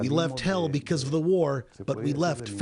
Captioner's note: speaking spanish